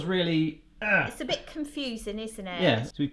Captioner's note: scoffs in disgust